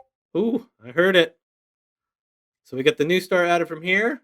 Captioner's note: computer beeps